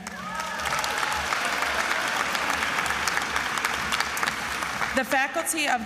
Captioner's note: attendees applauding and cheering